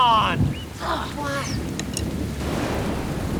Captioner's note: grunts